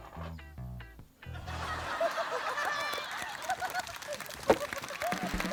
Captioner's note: laughter and applause